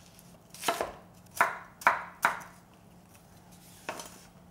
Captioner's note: knife tapping